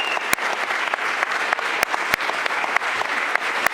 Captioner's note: applause